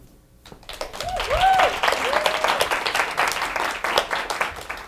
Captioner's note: audience applauding